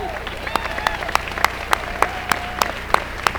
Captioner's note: applause